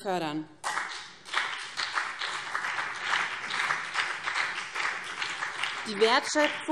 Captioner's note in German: Beifall BÜNDNIS 90/DIE GRÜNEN und vereinzelt CDU